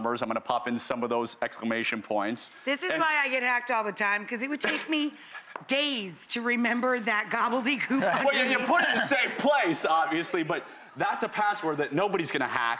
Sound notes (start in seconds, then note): 7.8 laughter